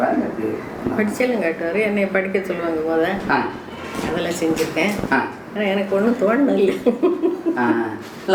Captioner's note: laughter